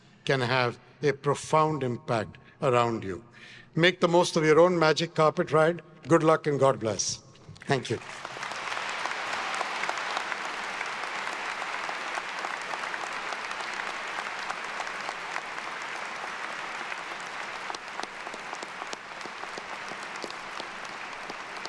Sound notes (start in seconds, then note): 8.5 everyone applauding